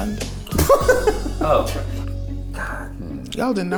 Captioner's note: laughs